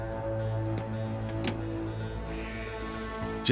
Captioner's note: click